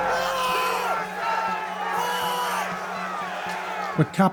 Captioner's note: shouting